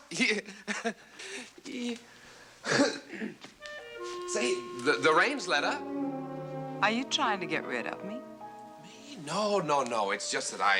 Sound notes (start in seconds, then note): 0.9 laughing; 2.6 clears throat